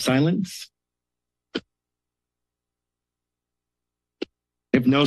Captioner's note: silence